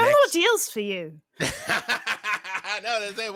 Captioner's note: laughs